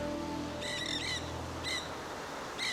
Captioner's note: seagulls